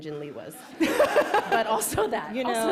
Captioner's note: laughter